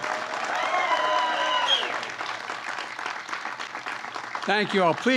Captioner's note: applause